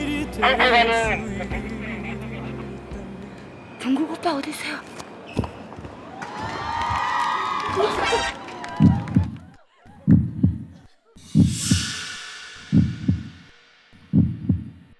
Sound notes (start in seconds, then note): 5.4 walking sound